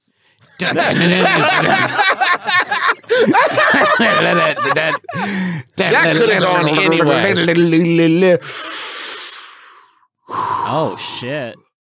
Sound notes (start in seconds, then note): 0.4 laughter; 10.2 deep exhale; 10.2 deep inhale